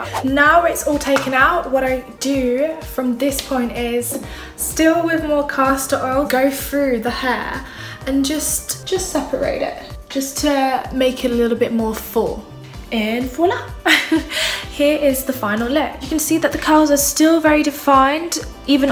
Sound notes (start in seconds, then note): 14.1 laughing